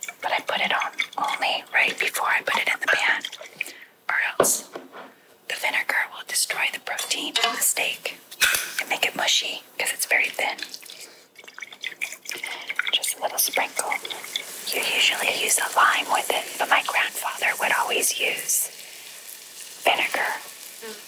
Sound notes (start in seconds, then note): 11.1 pouring; 20.8 buzzing